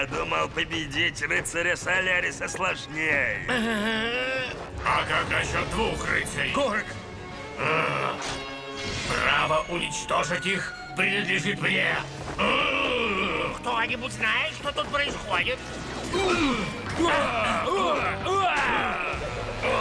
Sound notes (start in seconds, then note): 7.6 growls